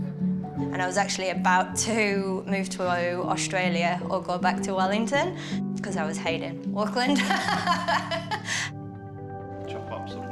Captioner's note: laughs